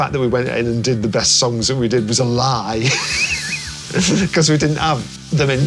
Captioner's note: laughs